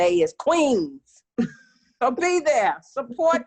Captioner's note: laughing